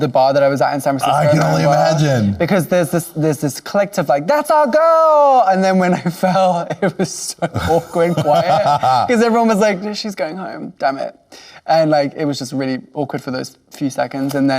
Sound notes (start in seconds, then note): 8.4 laughing